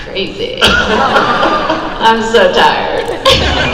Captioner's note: crowd laughs